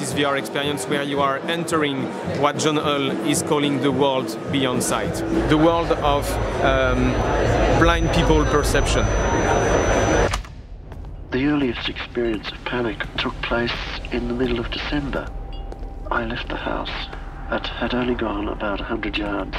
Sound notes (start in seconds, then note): 7.6 buzzing; 11.2 speaking on tape